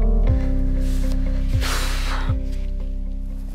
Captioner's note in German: Seufzen